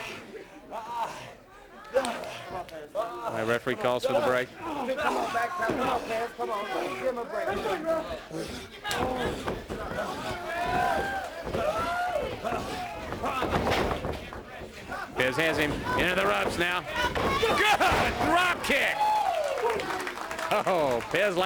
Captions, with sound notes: AND REFEREE CALLS FOR THE BREAK. >> [CROWD CHATTER] >> PEZ HAS HIM INTO THE ROPES NOW, GOOD DROPKICK.